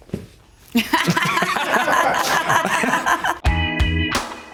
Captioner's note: Kate and Justin laughing; mellow music